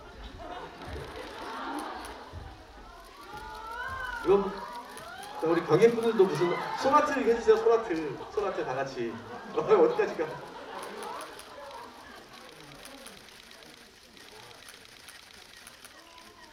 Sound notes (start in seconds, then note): 10.4 laughs